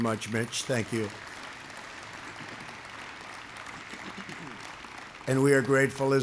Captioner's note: applause